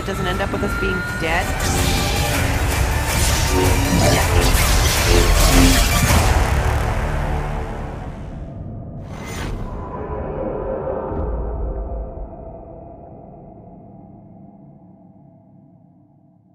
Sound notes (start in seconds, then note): 3.0 lightsabers crackling